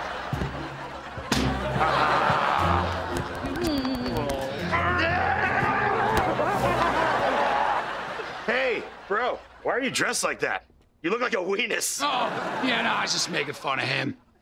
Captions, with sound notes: Ah! Yeah! [cheering] Hey, bro, why are you dressed like that? - You look like a wenis. - Oh. Yeah, no, I'm just making fun of him.